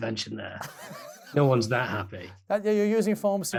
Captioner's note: laughing